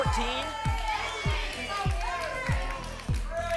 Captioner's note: audience shouting numbers